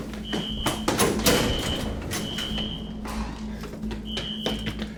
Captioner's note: alarm screeching